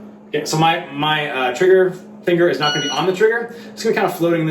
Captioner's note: beep